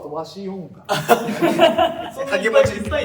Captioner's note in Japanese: 笑い声